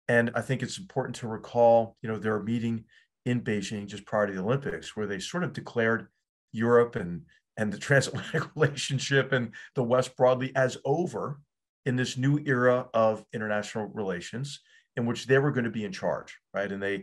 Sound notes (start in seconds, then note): 8.1 laugh